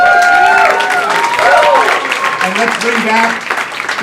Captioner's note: crowd cheering and clapping